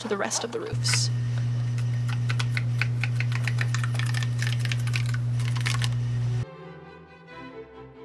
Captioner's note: sound of cardstock strips being pulled from the cutting mat; energetic orchestral music